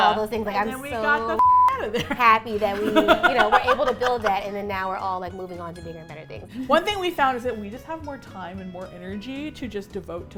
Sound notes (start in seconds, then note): 1.8 laugh